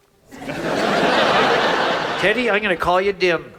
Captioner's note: audience laughs